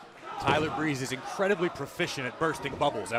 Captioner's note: crowd cheering